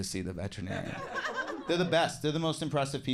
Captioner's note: audience laughs